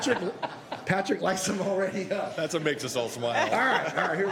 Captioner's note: laughter; laughter